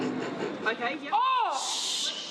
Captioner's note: yells; teammates shush